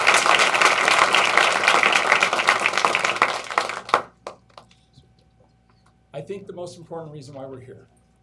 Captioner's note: applause